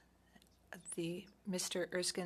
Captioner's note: speaking French